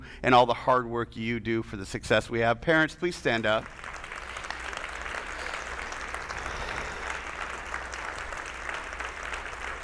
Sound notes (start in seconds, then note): 3.3 attendees applauding